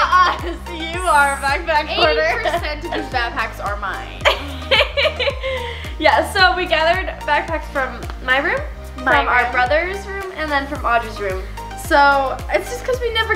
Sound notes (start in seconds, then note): 4.2 laughs